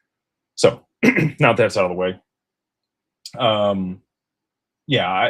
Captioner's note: clears throat